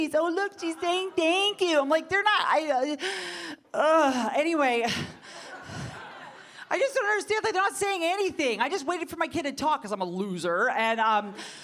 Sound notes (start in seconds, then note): 5.2 audience laughing